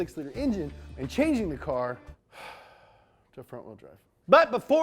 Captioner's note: sighs